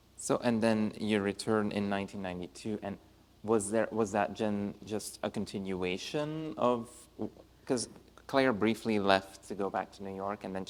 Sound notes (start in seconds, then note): none